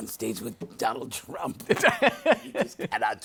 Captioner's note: laughs